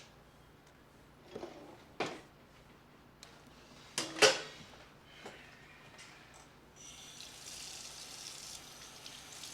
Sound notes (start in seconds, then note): 5.3 sighing